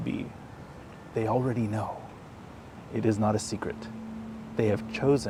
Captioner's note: whsipers